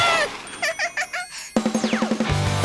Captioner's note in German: kicher